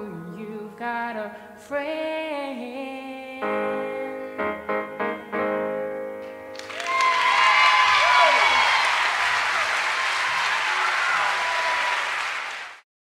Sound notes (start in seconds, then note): 6.5 audience applauding and cheering